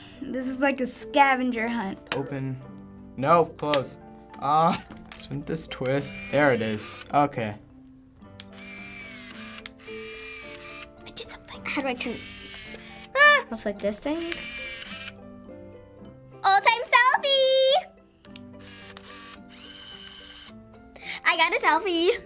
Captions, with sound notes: This is like a scavenger hunt. Open--no, close. Argh. Shouldn't this twist? (lens whirs) There it is. Okay. (lens whirs) (lens whirs) (whispers) I did something. How do I--(lens whirs). Ah! It looks like this thing? (lens whirs) Old time selfie! (camera whirs) I got a selfie!